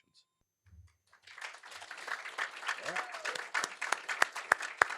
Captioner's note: applause